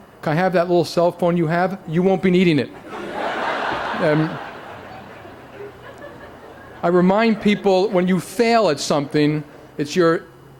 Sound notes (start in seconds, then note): 2.7 laughter